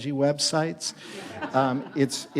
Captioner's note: audience laughs